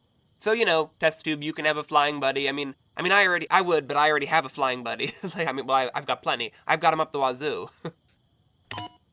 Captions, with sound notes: So, you know, Test Tube you can have a flying buddy, I mean- I mean I already- I would but I already have a flying buddy- [LAUGHS] Like I'm- well, I've got plenty. I've got them up the wazoo... [CHUCKLES]